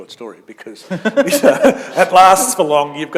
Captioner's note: chuckle